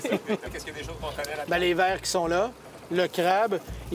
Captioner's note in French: rires